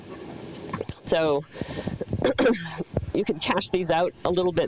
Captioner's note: clears throat